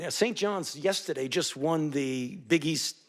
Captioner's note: none